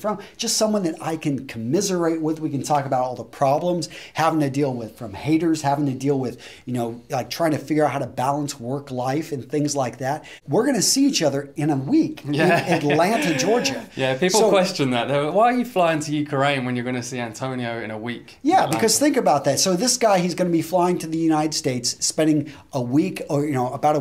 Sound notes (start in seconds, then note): 12.2 laughs